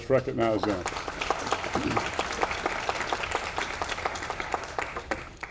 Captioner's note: audience applauding